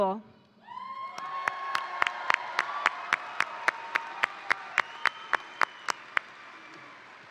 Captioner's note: crowd cheering; crowd applauding